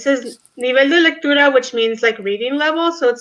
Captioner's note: speaks in foreign language